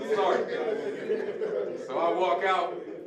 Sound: audience laughing

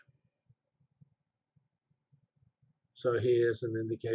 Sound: pause

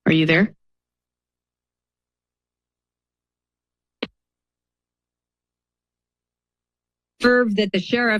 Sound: silence

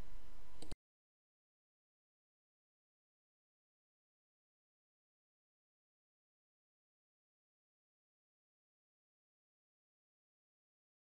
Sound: silence

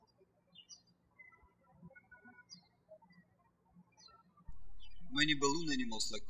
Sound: birds chirping

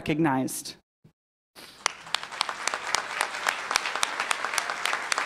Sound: applause

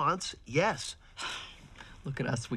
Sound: sighs

